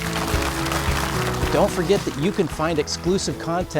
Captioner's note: audience applauding